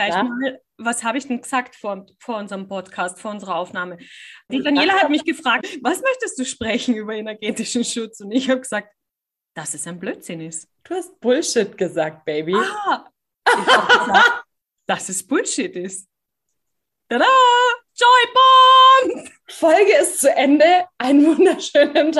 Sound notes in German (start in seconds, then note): 8.0 lacht; 13.5 lachen